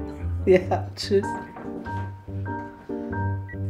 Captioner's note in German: lachend